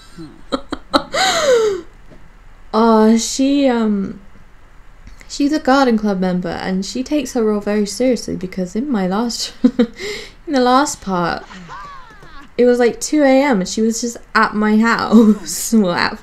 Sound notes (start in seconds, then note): 2.1 wheezes; 10.9 laughing